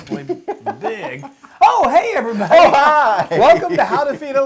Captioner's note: laugh